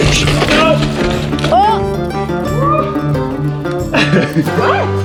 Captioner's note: man exclaiming; man laughs